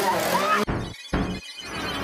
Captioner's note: screams